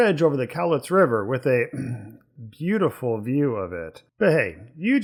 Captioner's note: ahem